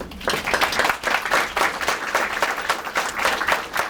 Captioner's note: applause